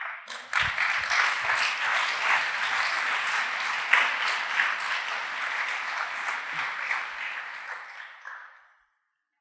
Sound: applause

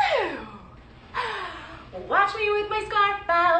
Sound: gasping

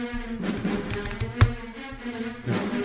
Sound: typing

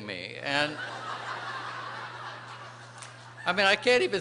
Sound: laughter

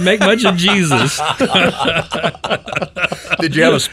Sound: pastors laughing

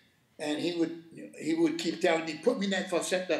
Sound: speaking Spanish

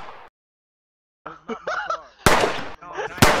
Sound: gunshot; laughing; laughs; more gunshots

